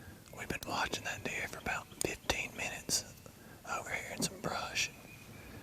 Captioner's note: whispering